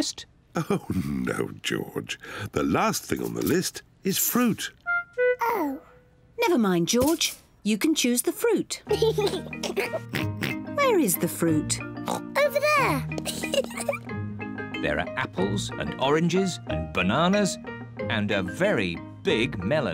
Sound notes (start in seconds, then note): 8.9 giggles and oinks; 10.0 oinks; 13.2 giggles